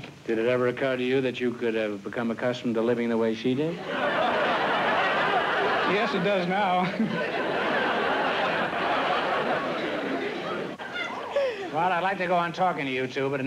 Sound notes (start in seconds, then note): 3.8 laughter